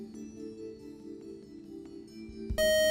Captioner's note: buzzer